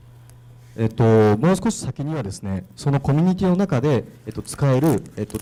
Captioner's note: speaking foreign language